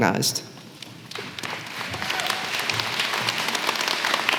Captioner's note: applause